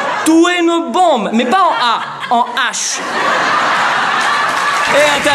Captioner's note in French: Rires + Applaudissements